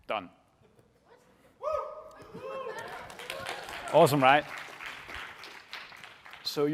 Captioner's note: applause